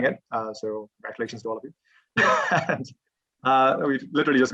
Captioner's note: laughs